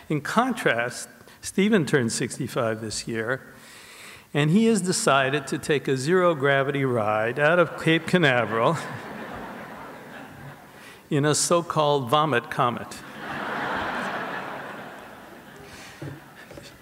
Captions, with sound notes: In contrast, Stephen turned 65 this year, and he has decided to take a zero gravity ride out of Cape Canaveral (audience laughs) in a so-called vomit comet. (audience laughs)